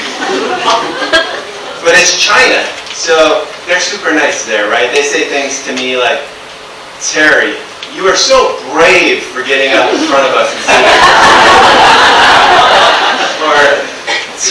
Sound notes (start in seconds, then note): 11.3 audience laughs